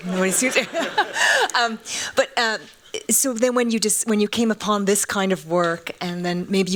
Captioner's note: laughing; laughs